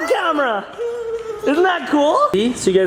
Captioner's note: laughs